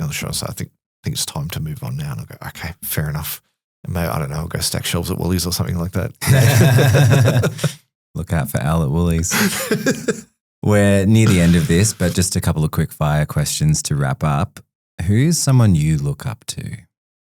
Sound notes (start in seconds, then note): 6.2 laughing; 9.2 laughs